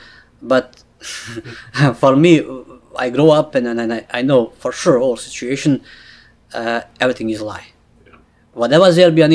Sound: laughs

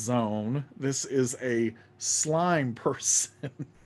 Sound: laughing

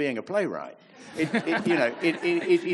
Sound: audience laughs

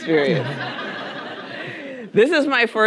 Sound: audience laughing

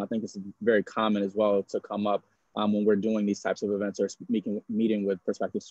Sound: audio distorting

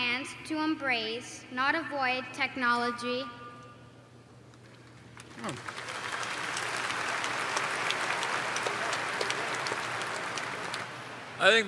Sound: applause

